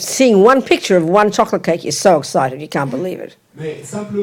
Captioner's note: French